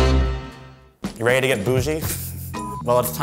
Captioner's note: upbeat music; laughs